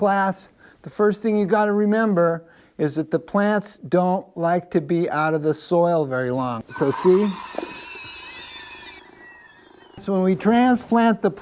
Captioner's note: plant screams